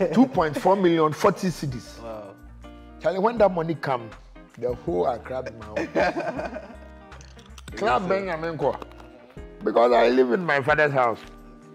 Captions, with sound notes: 2.4 million 40 Cedis [in Pidgin] Chale when that money come the whole Accra be my own I went to almost all the night clubs because I live in my father's house